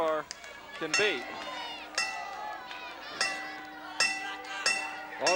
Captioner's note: bell dinging